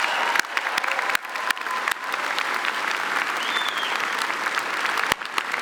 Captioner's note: applause; cheering